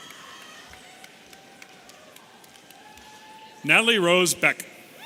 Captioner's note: audience cheering